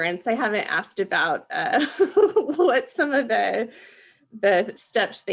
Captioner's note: laughing